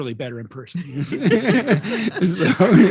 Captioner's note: laughing and clapping